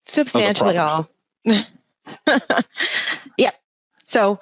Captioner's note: laughing